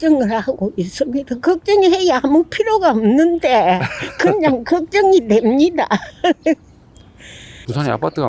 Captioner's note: laughs